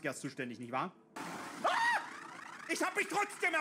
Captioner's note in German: Schrei aller Sev